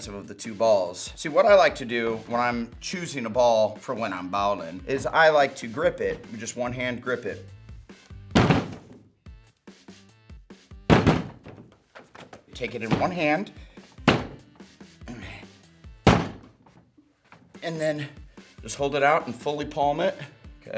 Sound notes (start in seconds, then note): 8.7 ball hits table; 14.3 ball hitting table